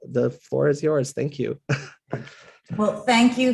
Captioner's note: laugh